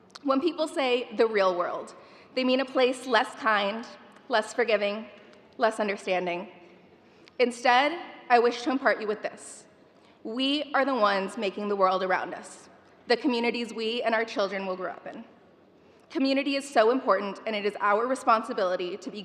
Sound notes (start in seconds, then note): none